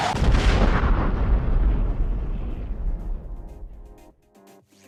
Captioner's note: explosion sfx